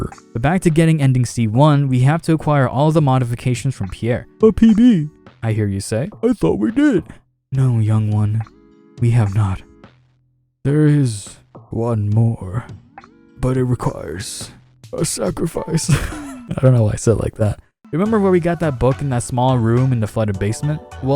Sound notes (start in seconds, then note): 15.8 laughing